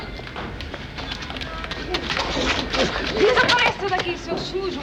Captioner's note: speaking portuguese